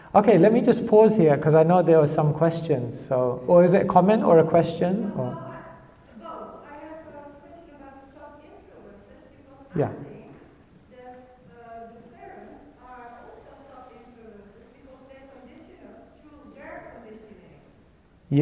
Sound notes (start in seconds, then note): 10.0 audience speaks